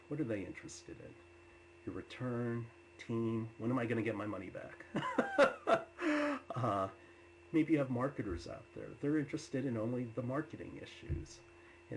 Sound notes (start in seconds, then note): 5.0 laughs